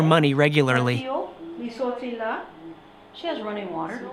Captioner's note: speaking Creole